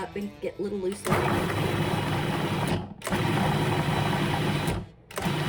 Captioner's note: food processor grinding